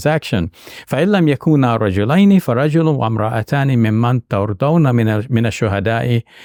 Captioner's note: speaks in Arabic language